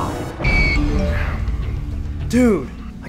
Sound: text message alert sounds

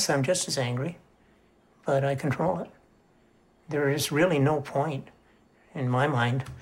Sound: none

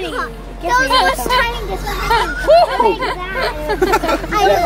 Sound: distant chattering

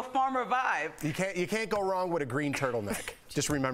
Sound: laughter

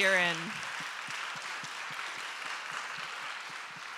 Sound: audience applauding

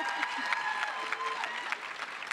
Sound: applause

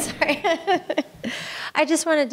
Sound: laughs

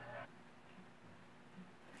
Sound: laughing

